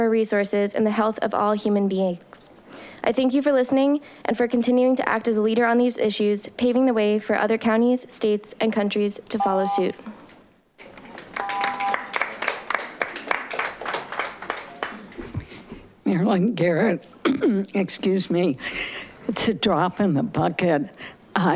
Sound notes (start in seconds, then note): 11.1 audience applauding; 17.2 coughing